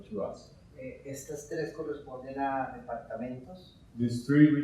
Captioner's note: speaking in Spanish